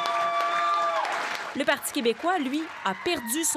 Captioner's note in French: cris et applaudissements